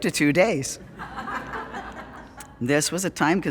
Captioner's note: audience Laughing